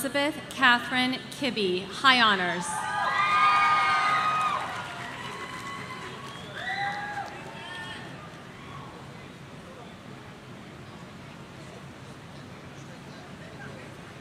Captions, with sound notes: Elizabeth Katherine Kibby, High Honors. (audience cheering)